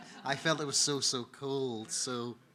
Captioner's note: audience laughing